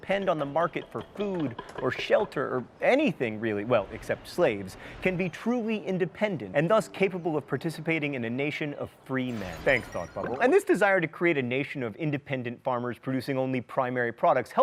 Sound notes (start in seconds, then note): 9.3 beeping